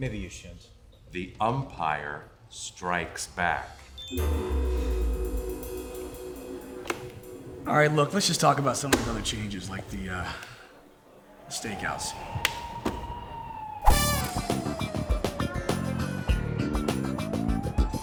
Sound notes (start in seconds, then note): 4.1 defeated music; 11.6 energetic music; 11.6 sirens wailing